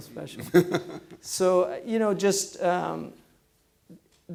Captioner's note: chuckling